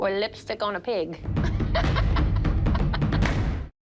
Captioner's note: dramatic music plays; laughing